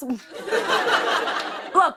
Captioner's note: laughter